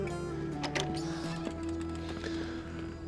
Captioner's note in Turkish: Kapı açılma sesleri; Kapı gıcırdama sesleri